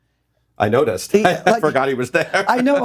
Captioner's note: laughs